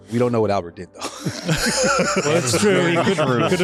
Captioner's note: laughter